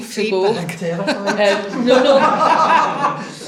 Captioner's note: group laughs